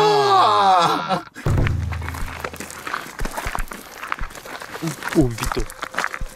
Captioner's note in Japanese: 歩く音